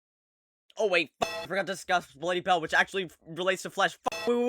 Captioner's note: bellring